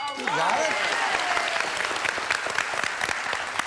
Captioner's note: ding